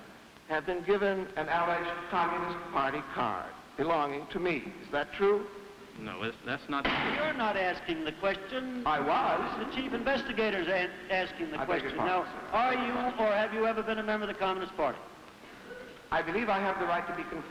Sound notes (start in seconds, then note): 6.8 gavel banging hard